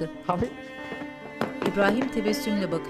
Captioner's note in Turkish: Vurma sesi